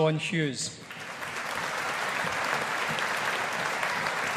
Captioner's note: audience applauding